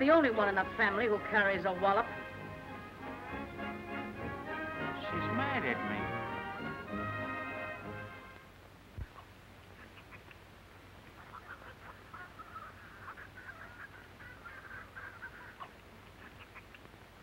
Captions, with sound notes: She's not the only one in the family who carries a wallop. She's mad at me. [chickens gobbling]